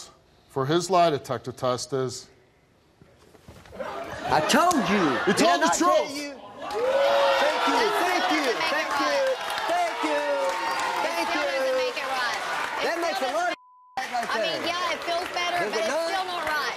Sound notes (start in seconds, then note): 6.4 audience cheers; 13.5 beep